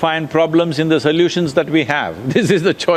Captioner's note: laughs